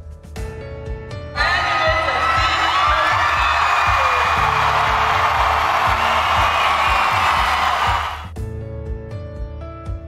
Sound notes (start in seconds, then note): 1.4 clapping and cheering